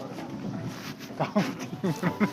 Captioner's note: laugh